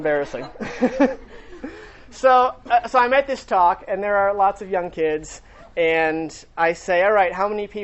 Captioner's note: laughter